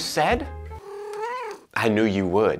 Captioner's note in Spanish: Maullido de Mr. Whiskers